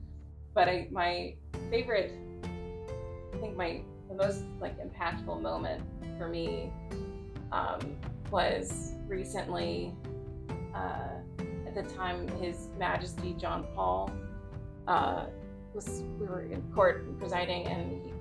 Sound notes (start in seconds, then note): none